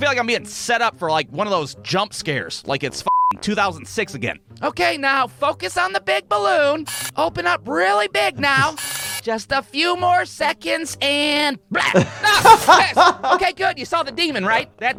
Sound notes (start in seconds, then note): 3.0 beep; 6.8 shutter whirring; 8.7 shutter whirring; 11.7 laughing